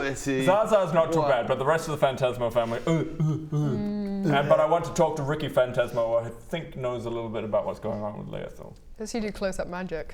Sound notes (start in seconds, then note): 3.1 urgh urgh urgh